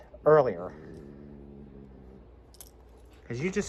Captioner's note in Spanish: gruñe